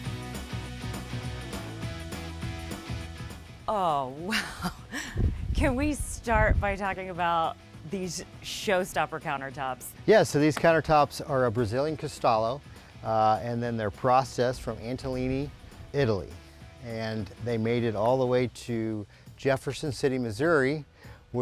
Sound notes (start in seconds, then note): 4.3 laughs